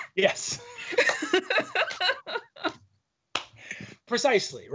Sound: laughing

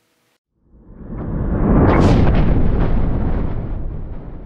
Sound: thunder

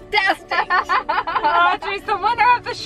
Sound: laughing

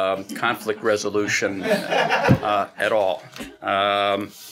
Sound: laughing

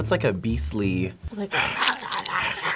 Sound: snarling

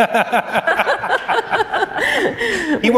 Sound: laughter

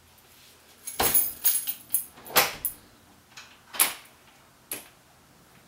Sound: door opens and closes; key sounds

